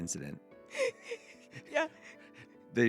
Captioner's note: laughing